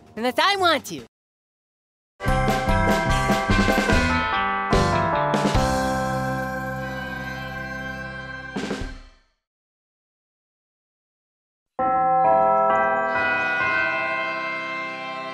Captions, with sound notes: Unless I want to. [BELL CHIMES]